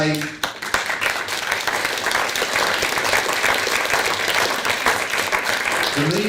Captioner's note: applause